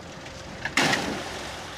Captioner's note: splash